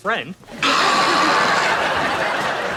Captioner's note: laughs